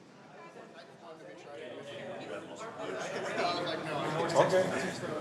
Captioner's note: indistinct chattering